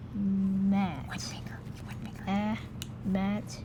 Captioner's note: whispering